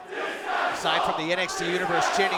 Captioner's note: fans chanting